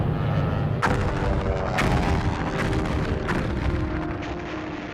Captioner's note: bombs exploding